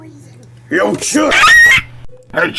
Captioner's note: vocal cord ripping noises